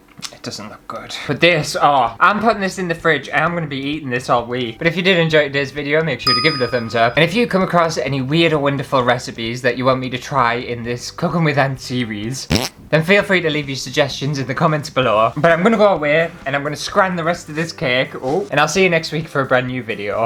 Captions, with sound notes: it doesn't look good." But this... oh I'm putting this in the fridge and I'm gonna be eating this all week! But if you did enjoy this video make sure to give it a thumbs up! And if you come across any weird or wonderful recipes that you want me to try in this cooking with Ant series *fart!* Then feel free to leave your suggestions in the comments below! But I'm gonna go away and I'm gonna scran the rest of this cake! Oh!! And I'll see you next week for a brand new video!